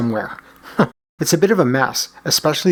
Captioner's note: chuckles